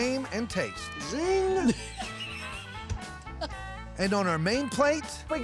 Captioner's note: laughter